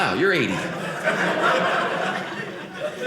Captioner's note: audience laughing